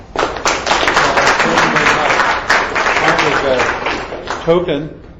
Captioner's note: audience claps